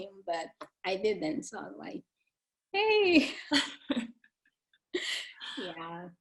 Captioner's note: chuckling